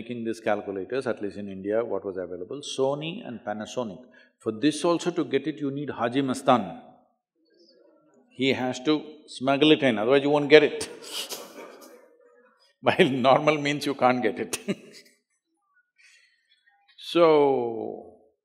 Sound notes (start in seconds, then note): 14.5 laughter; 15.8 laughs